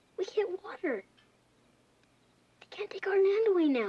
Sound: tv playing

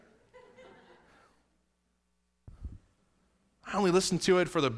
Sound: laughter

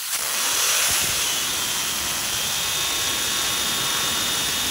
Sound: motor runs rapidly

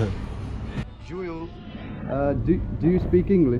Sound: speaking in a foreign language

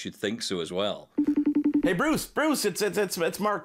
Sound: phone dialing

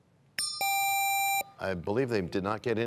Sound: bell rings, time expires

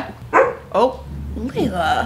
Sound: dog barks

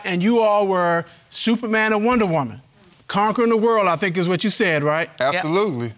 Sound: none

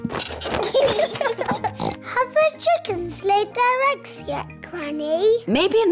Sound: both giggling; oinks

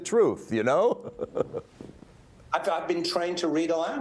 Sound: laughs

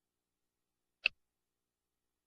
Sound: click

